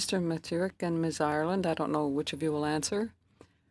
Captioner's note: speaking French